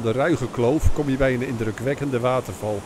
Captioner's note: voiceover